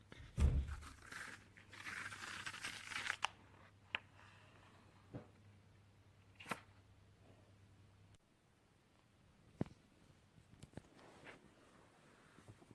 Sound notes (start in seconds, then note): 0.3 door slams; 0.6 the sound of pages stuck together being pulled apart